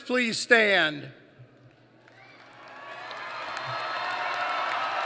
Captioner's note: applause